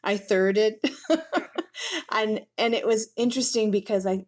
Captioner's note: laughter